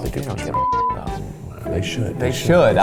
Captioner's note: whispers; beep; whispers